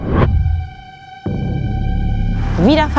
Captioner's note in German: Dröhnen